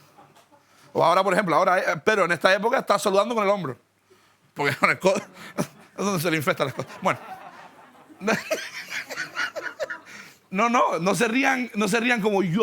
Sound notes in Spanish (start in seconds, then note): 6.5 Risas